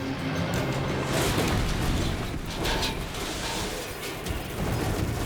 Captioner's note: airplane clashes